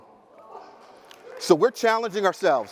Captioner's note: audience applauding